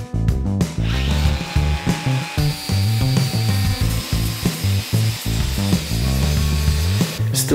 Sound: angle grinder noises

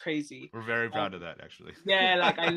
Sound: laughs

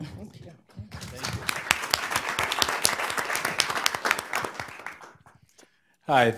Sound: crowd applauds

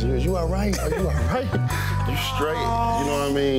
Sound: laughing

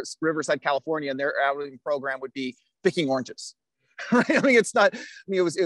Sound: laughs

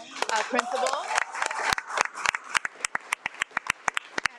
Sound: audience clapping

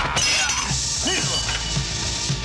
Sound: hissing

